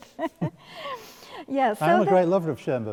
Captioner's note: laughing